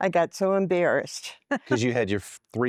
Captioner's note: giggling